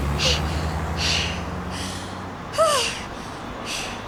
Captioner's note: exhausted panting